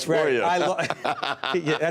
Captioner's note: laughter